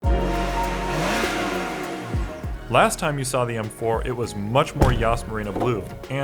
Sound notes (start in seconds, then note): 0.0 engine revving; 0.0 upbeat music